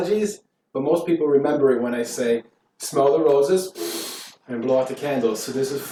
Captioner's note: sniff